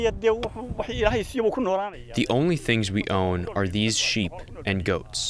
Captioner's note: through translator